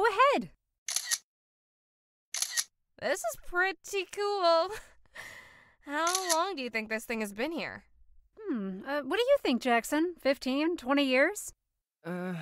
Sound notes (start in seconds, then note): 4.3 camera clicks